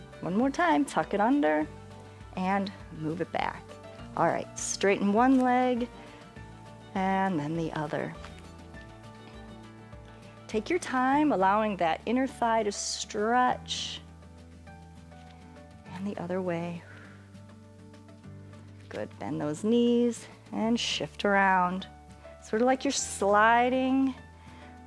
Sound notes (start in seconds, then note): 16.8 exhales